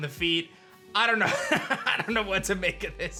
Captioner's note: chuckles